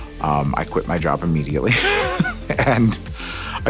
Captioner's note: laughs